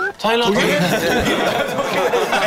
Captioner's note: ha ha